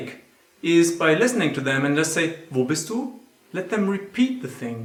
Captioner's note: speaking german